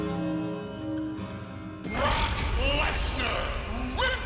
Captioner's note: bell tolling